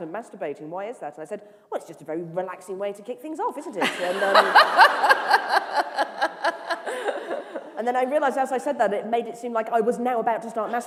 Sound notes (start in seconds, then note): 6.1 laughter